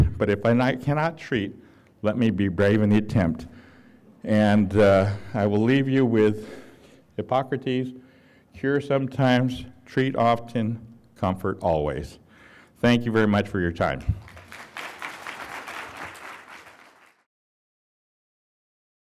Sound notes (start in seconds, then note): 14.1 applause